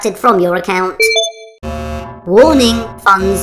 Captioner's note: warning alert